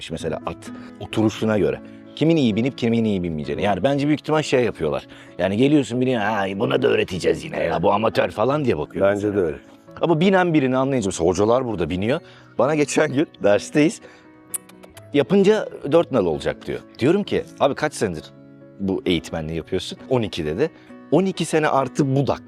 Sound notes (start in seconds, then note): 14.4 kissing sounds